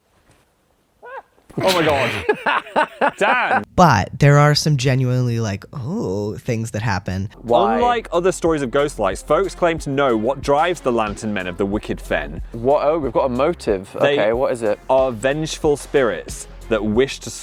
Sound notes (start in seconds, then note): 1.5 laughs; 1.6 screams